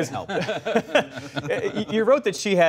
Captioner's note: laughter